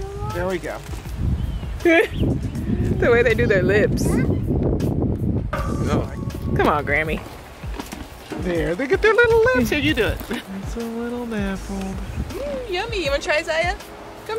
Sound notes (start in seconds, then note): 1.9 chuckles; 5.6 carrot clangs on gate